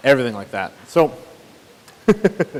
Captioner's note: chuckles